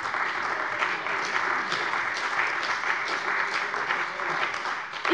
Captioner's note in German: Beifall bei der CDU und den BÜNDNIS 90/DIE GRÜNEN